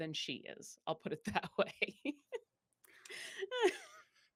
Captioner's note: laughs